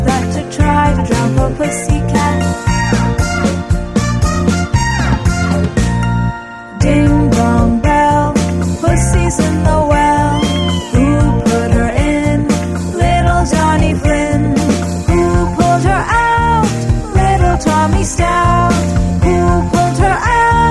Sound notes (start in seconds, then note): 10.2 cat meowing